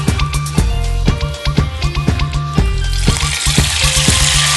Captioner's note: stir-fry the noodle, sizzling sound in the background